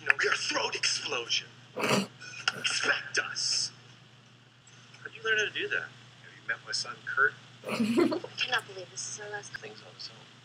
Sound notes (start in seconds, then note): 7.6 giggles